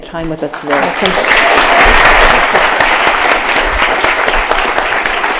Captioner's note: audience applause